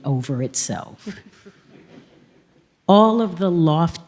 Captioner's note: few audience members laugh